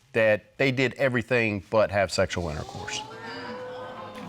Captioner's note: audience exclaiming